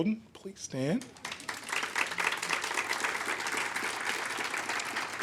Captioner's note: audience applaud